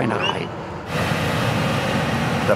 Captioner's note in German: Dröhnen